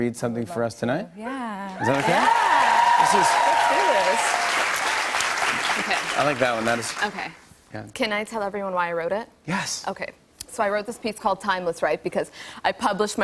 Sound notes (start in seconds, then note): 1.7 cheers and applause